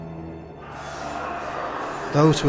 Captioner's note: men shouting distantly